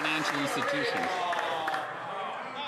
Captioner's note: some Applause